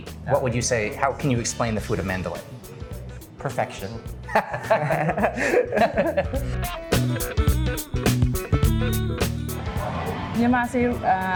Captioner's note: laughing